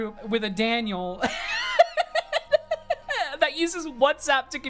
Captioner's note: laughing